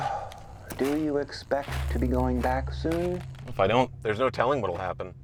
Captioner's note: sigh